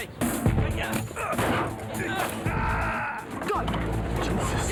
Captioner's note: Phil grunts